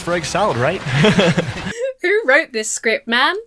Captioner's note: student laughs awkwardly